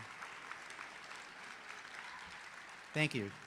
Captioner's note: applause